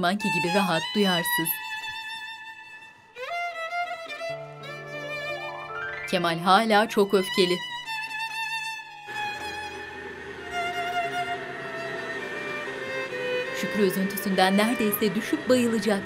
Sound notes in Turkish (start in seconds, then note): 9.0 Mutfak robotu sesi